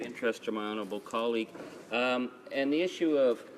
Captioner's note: speaking in French